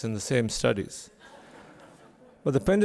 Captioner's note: laughter from audience